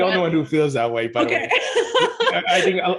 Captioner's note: laughs